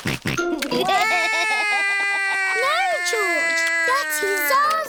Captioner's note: george laughs; cries